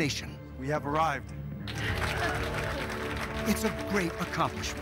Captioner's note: applause